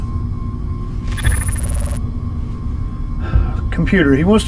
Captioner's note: static buzzing